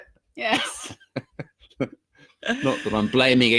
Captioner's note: both laughing